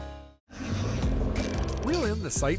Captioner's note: fishing pole reel grinding